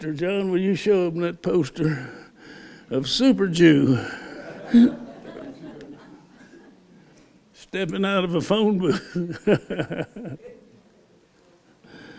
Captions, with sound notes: John, will you show them that poster of Super Jew [laughter] stepping out of a phone booth. [laughs]